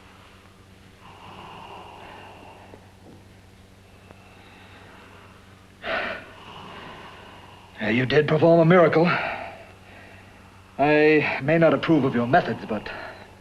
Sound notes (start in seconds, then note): 5.8 sighs